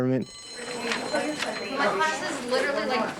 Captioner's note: bell ringing